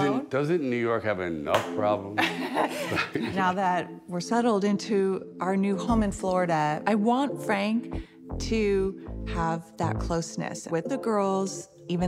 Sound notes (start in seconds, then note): 2.2 laughing